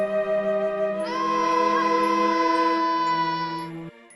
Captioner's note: screams